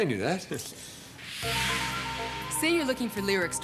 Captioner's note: whoosh